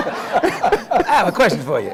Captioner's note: laughter